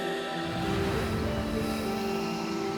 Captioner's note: low rumbling